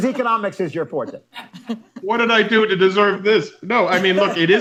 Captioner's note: laughter